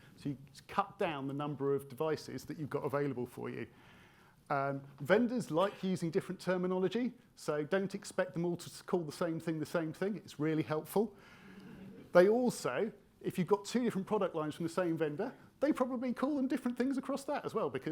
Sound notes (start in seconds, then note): 11.3 attendees laughing